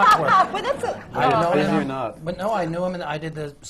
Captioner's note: laughter